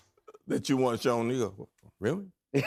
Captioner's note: laughter